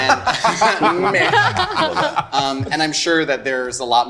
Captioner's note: group laughing